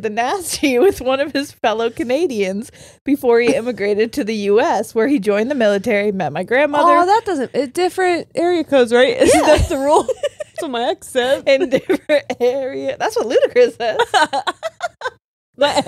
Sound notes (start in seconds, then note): 9.2 laughs; 14.0 all laughing